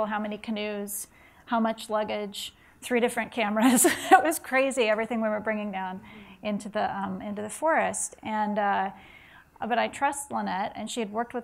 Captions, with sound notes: how many canoes, how much luggage, three different cameras. (laughs) It was crazy, everything we were bringing down into the forest. But I trust Lynette, and she had worked